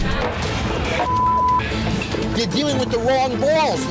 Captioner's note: beep